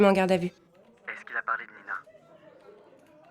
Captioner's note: on the phone